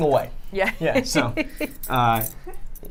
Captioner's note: laughs